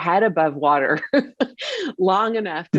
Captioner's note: laughs